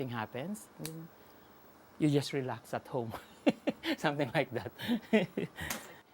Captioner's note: laughing